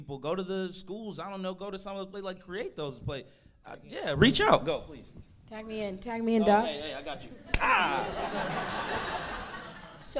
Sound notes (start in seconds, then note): 7.4 audience laughing; 7.5 clapping